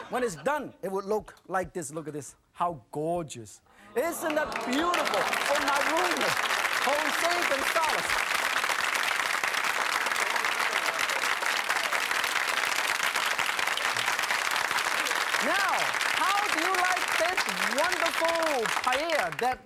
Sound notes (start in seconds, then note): 5.3 audience clapping